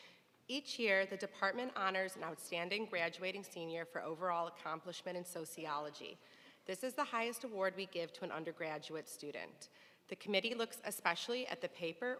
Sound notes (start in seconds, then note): none